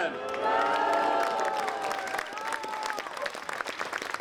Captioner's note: applause